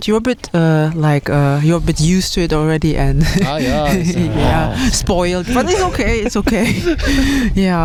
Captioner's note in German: gelächter; japst